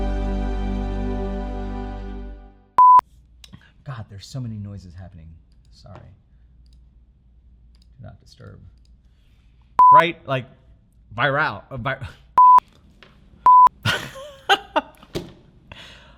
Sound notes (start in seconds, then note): 12.4 beep; 13.8 laughing